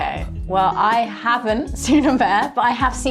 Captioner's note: chuckling